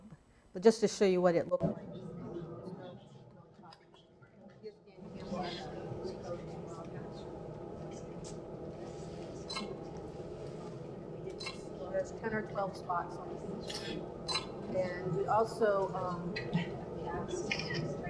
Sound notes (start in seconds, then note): 5.0 speaking quietly while working